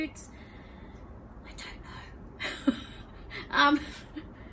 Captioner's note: laughs; still laughing